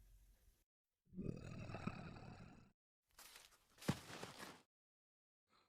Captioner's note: Luzeleon growls